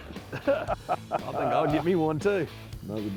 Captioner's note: laughter